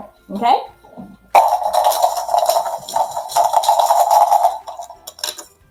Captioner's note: counters rattling